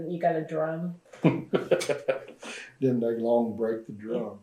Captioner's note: laughs